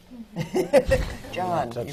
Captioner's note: laughs